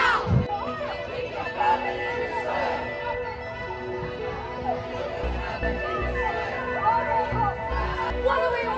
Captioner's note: chanting